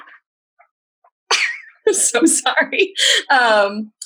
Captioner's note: chuckles